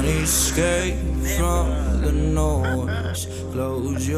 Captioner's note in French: il rit